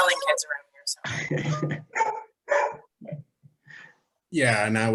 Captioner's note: laughing; dog barking